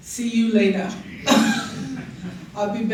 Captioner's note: laughter